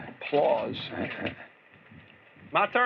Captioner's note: chuckles